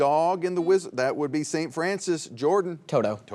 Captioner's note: buzzer beeps